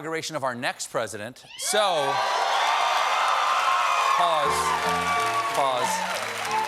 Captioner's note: piano riff; cheers and applause